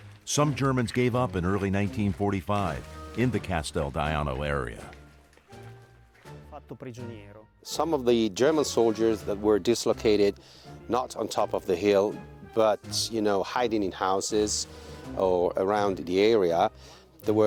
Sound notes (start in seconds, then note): 6.9 speaking French; 7.8 voiceover